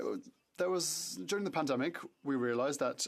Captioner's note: speaking French